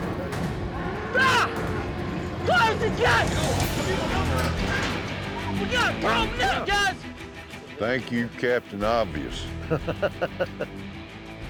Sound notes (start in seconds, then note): 0.2 bull bellows; 9.5 chuckles